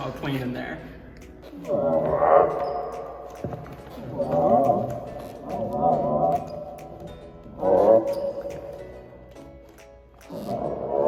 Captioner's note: growling